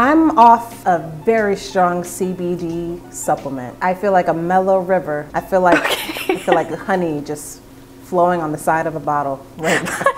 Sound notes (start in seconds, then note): 5.7 laughing